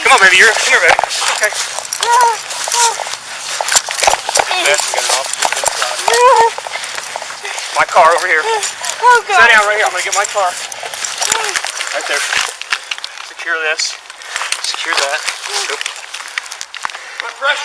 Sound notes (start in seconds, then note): 1.3 groaning